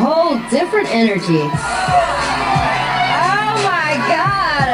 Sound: contestants cheering

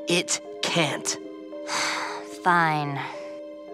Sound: sighing

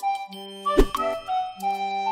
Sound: theme music; swoosh

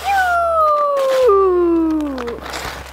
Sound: howls

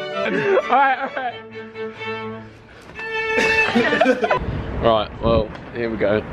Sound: laughing

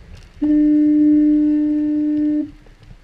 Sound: foghorn

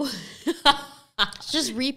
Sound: laughs softly

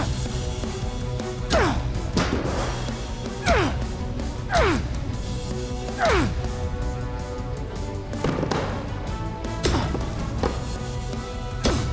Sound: grunting

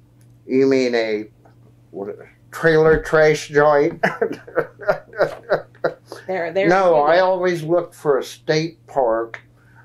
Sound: laughs

